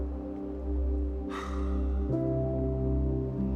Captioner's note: wistful sigh